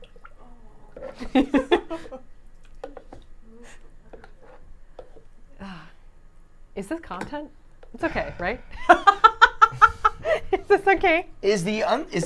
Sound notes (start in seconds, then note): 1.2 laughing